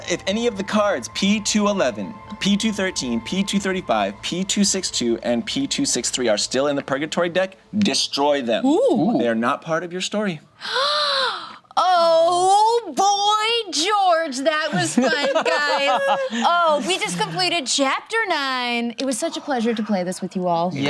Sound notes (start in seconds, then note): 10.6 gasps; 14.6 group laughs